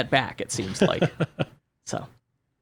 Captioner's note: laughs